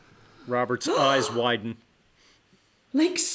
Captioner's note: debra gasps